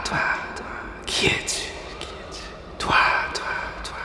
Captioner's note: echo